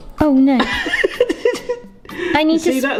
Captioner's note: laughs